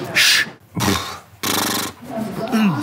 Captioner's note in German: Prusten